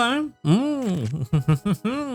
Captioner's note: laughs